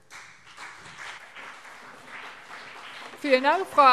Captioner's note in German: Beifall CDU und BÜNDNIS 90/DIE GRÜNEN